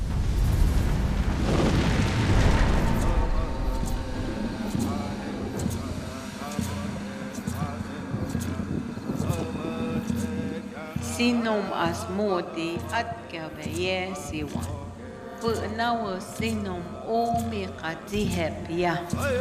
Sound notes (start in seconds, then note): 1.7 chanting in Native language